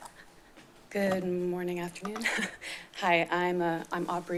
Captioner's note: chuckles